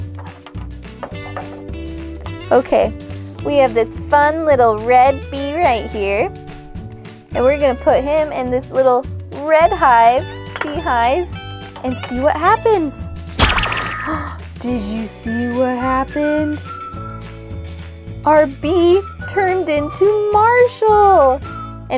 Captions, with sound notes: Okay, we have this fun little red bee right here, and we're gonna put him in this little red beehive and see what happens. (magical zap) (gasp) Did you see what happened? Our bee turned into Marshall,